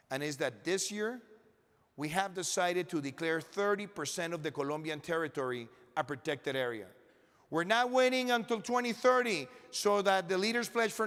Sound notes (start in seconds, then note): none